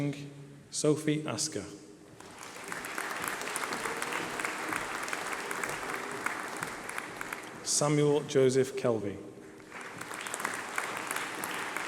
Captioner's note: applause